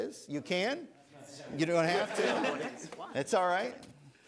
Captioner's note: laughter